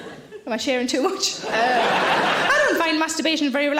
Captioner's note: audience laughing